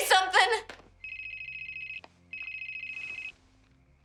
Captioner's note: cell phone rings